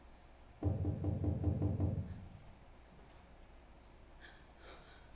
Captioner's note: knocking on door